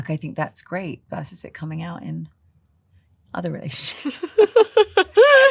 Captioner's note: laughter